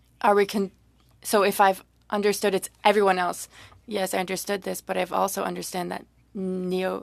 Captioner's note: speaking French